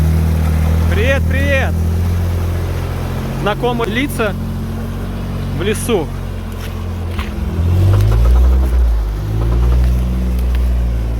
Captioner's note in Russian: Звук мотора